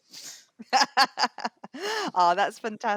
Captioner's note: laughs